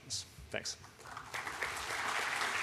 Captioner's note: applause